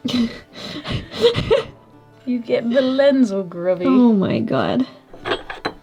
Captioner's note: laughing